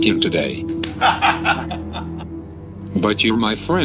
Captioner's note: laughing